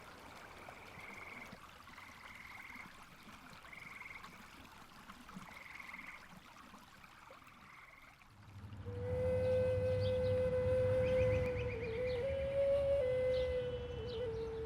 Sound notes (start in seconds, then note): 0.8 sounds of water and frogs; 8.6 flute melody